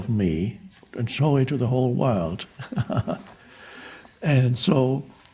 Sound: chuckles

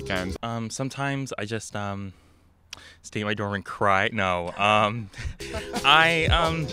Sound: laughs

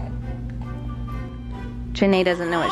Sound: baby crying

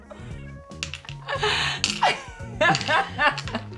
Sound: laughter

